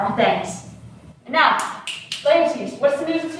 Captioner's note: snaps fingers commandingly